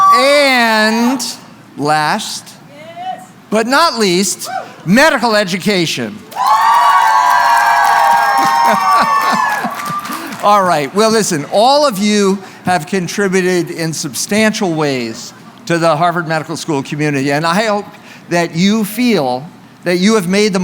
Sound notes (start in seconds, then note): 6.2 cheering